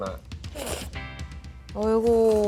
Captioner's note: slurp, slurp